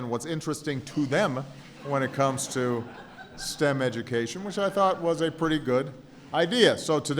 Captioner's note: laughter; laughter